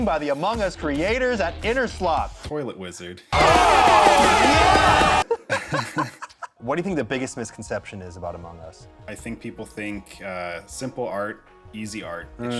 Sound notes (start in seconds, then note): 3.3 cheering; 5.2 laughter